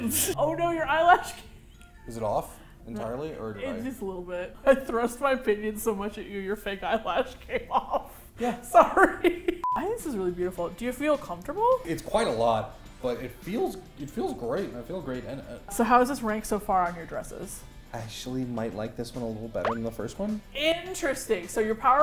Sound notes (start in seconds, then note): 7.1 laughs; 8.6 laughing